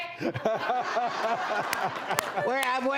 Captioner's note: laughter